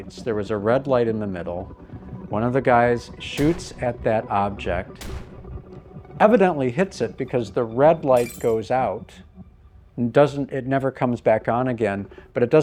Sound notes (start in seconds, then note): 5.0 gunshot